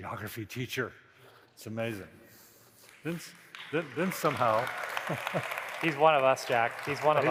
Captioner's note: laughter